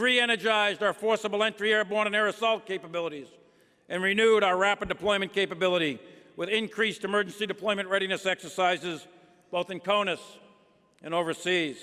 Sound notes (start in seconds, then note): none